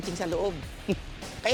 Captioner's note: scoffs